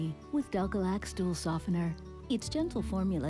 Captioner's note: none